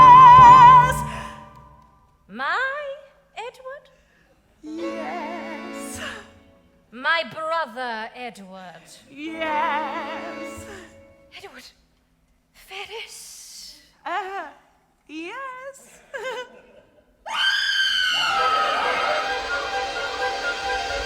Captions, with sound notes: - My Edward? - Yes. - My brother, Edward? - Yes. - Edward Ferrars? - Er, yes. (Fanny screams) (frantic music)